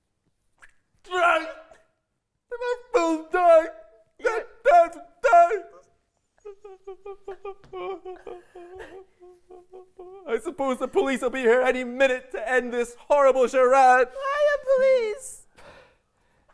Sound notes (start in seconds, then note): 1.1 wailing